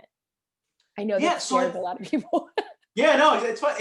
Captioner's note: laughter